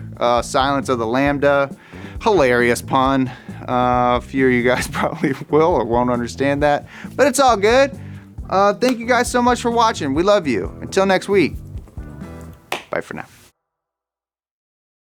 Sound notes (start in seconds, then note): 12.4 clap sound